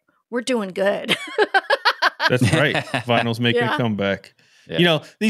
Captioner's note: laughing